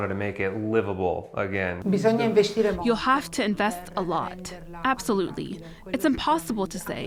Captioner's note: through translator